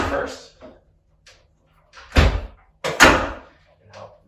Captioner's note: table clicks